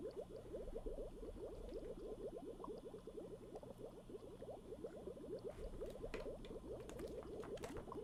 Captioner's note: tank bubbles